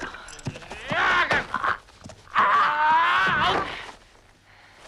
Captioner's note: cavalier shouts